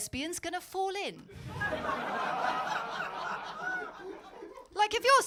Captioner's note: audience laughing